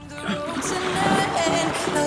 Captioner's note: water splashing